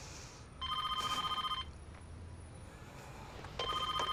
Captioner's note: phone rings